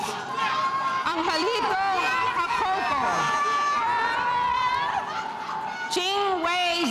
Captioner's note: crowd cheering over announcer